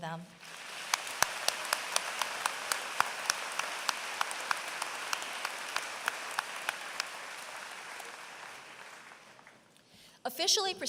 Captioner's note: applause